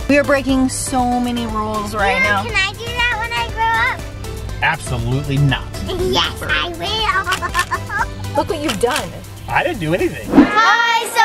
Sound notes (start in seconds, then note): 6.6 laughs